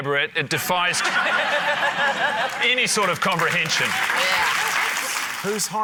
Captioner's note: laughter, applause